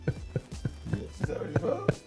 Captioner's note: Bryan Laughing